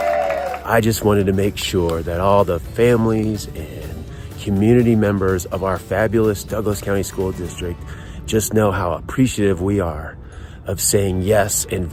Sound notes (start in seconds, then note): 0.0 cheering